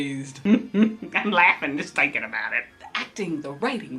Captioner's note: giggles